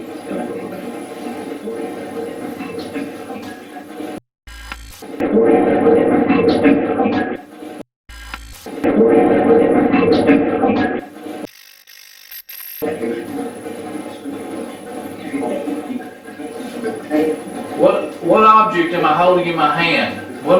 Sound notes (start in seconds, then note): 0.0 static playback transmitting; 4.6 static fizzing; 5.4 static playback transmitting; 8.2 static fizzing; 11.7 static fizzing; 13.1 static playback transmitting